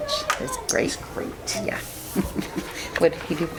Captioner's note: chuckles